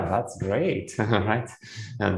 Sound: laughs

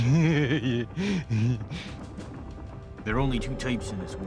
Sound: laugh

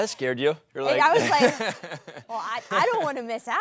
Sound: laughs

